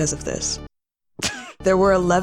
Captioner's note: music stops; laughs